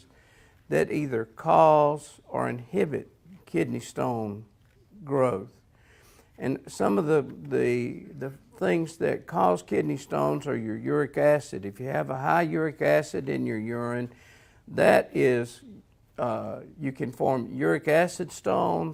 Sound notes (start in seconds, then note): none